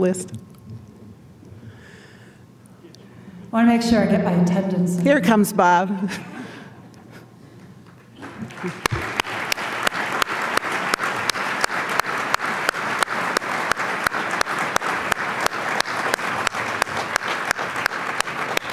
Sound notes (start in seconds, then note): 5.9 applause